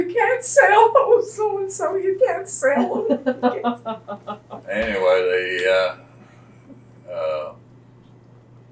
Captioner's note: imitates distressed voice